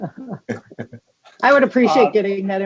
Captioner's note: laughing